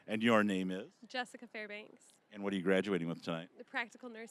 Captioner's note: none